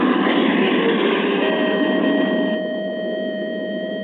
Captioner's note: alarm blaring